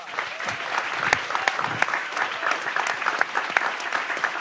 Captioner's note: audience applauds